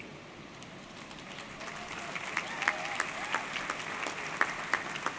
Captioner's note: audience clapping